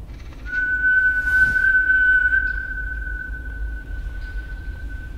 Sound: whistle

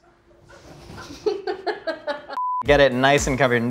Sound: laughing

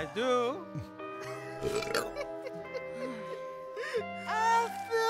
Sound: Monkey King giggles; Benbo burps

